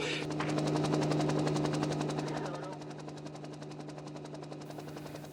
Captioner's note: helicopter blades humming